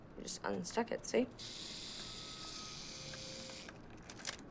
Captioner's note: timer whirring